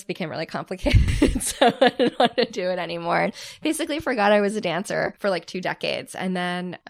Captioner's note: laughs